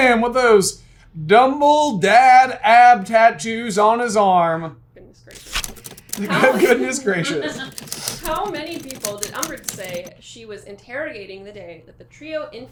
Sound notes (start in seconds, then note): 6.2 laughing